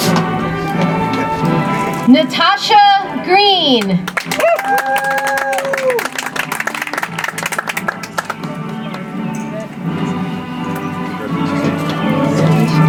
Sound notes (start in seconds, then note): 4.0 audience applauds; 8.8 soft music